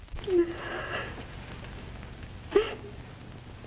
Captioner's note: woman sobbing